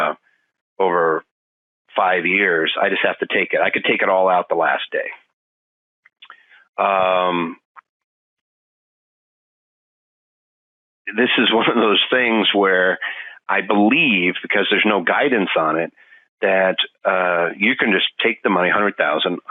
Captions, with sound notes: "over five years, I just have to take it, "I can take it all out the last day." This is one of this things (laughing) where I believe because there's no guidance on it that you can just take the money, 100,000.